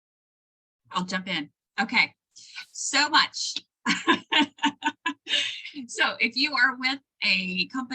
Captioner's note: laughter